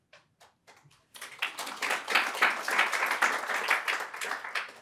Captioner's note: audience applauding